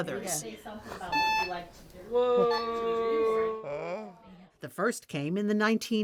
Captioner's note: device beeps